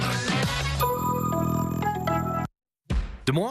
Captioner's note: tones play